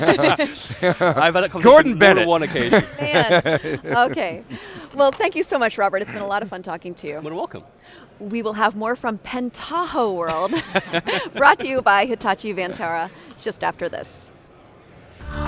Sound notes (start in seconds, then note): 10.3 laughter